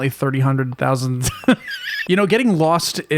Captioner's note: wheeze